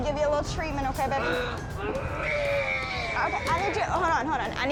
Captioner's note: hacking